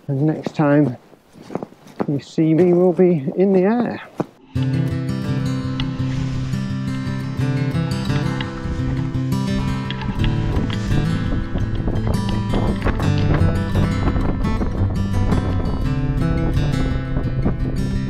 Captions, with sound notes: and next time you see me will be in the air. (bright guitar music) (air whooshing) (bright guitar music)